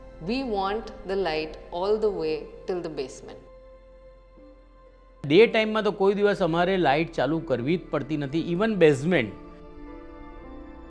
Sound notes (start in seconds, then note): 5.5 in Gujarati